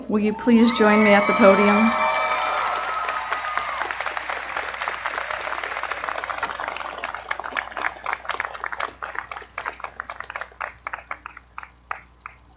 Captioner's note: appaluse